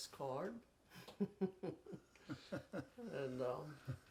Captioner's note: chuckles